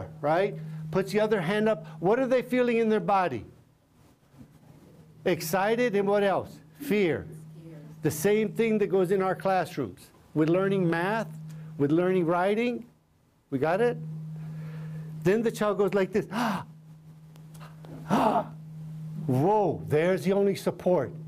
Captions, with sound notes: Right? Puts the other hand up. What are they feeling in their body? Excited. And what else? Fear. The same thing that goes in our classrooms with learning math, with learning writing. We got it? Then the child goes like this. [ Gasps ] Whoa, there's the only support.